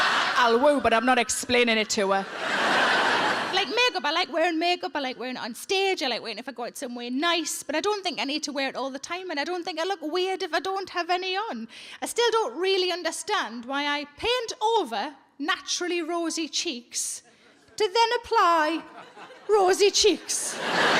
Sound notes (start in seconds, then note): 0.0 laughs; 0.0 audience laughing